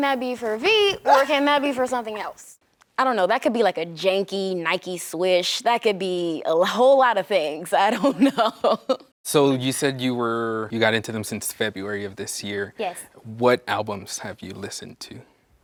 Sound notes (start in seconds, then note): 7.9 laughs